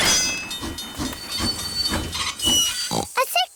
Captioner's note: tinging; oinks